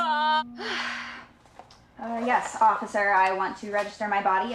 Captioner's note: none